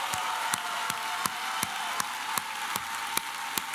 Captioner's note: applause